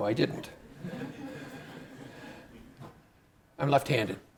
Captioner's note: participants laughing